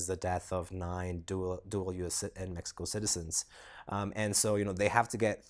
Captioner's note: none